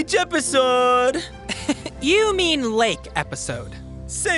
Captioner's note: chuckles